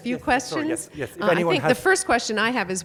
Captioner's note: voiceover